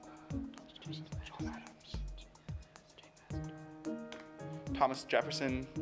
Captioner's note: pensive music; team whispering